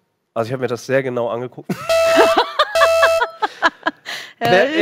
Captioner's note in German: Sirene